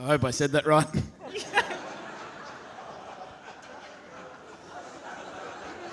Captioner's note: audience laughing